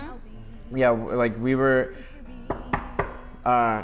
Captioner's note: knock, knock, knock